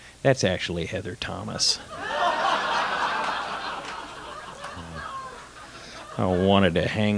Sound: laughter

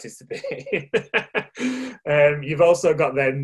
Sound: laughing

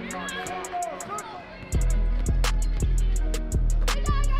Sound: ball dribbling on the court

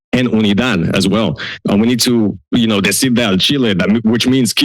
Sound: foreign language

